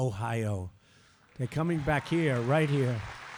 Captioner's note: applause